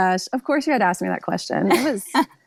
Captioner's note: laughs